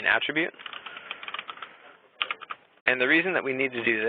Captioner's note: keyboard clicking